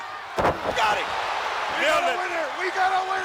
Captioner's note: heavy thudding; crowd cheering